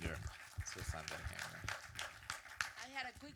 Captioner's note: audience applause